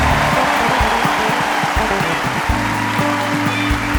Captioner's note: audience cheering; upbeat music